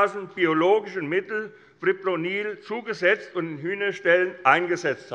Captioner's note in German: none